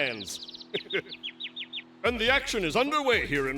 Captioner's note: chirping